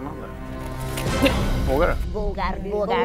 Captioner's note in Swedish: Chock